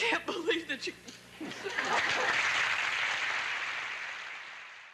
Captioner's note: audience cheering, applauding